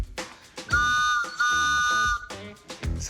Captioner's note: toot toot